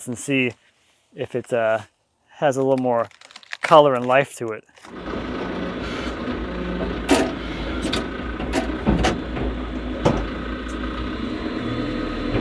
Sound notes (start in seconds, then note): 4.7 vehicle rumbling